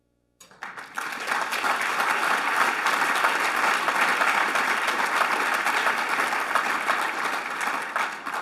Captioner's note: applause